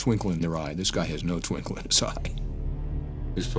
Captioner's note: chuckles